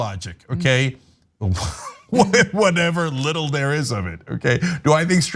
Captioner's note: laugh